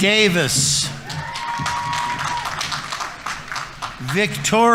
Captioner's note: audience members cheering; audience applauding